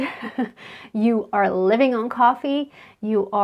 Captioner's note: chuckles